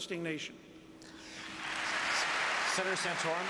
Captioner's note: applause